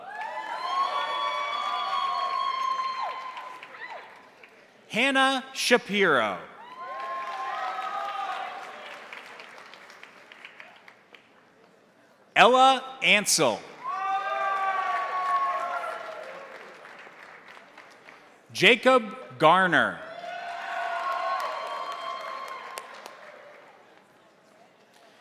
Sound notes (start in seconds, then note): 0.0 crowd cheering; 0.0 crowd applauding; 6.5 crowd cheering; 6.6 crowd applauding; 13.7 crowd cheering; 13.8 crowd applauding; 19.9 crowd cheering; 20.1 crowd applauding